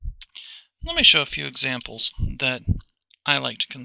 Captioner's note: voiceover